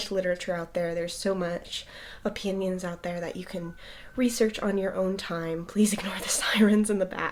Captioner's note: sirens